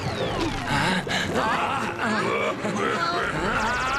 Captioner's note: spydex laughs evilly